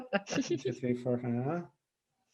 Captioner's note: laughs